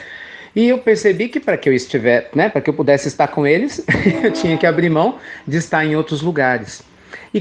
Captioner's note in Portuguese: risos